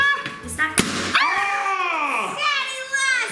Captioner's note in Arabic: يصرخ